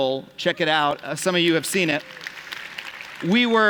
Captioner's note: applause